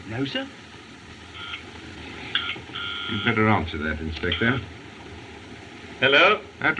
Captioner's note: phone Buzzing